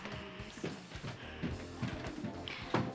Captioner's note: footsteps approaching